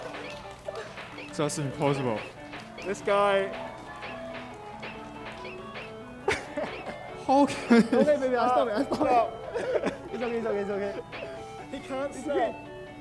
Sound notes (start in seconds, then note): 0.0 audience clapping; 3.4 game beeping; 6.4 laughing